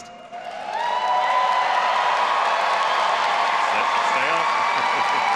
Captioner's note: all applauding and cheering; laughs